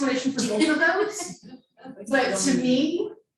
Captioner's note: participant laughing